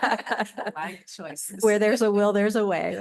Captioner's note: laughter